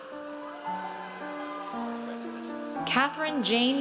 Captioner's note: audience cheers